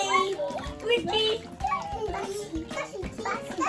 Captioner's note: kids cheering